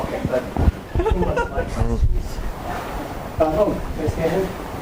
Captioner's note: audience laughs